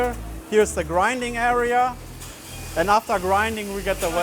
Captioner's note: machinery whirring